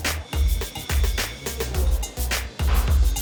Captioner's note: machine hisses